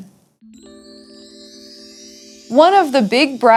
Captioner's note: chimes chime